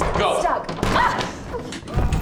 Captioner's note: door crashes open; Tyler screaming intermittently